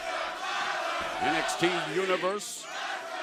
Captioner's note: fans chanting